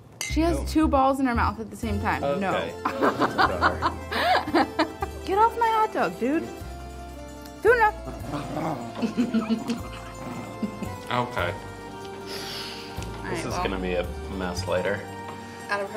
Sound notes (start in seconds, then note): 2.9 laughs; 8.0 dog growls